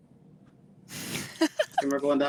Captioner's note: laughs